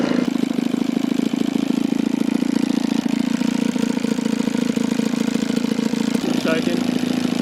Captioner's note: engine running